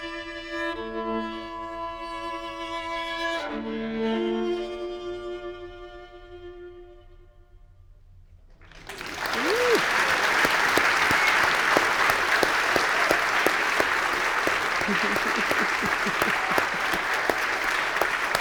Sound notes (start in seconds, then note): 5.4 placid violin music fades; 9.0 audience applauds; 11.2 applauds